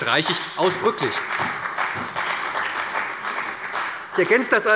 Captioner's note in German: Beifall bei der SPD, der CDU und dem BÜNDNIS 90/DIE GRÜNEN